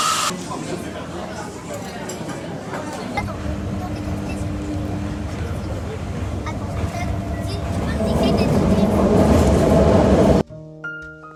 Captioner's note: laughs